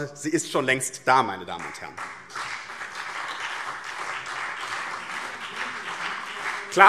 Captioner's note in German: Beifall BÜNDNIS 90/DIE GRÜNEN und CDU